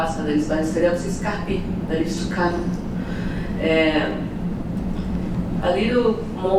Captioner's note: non english speach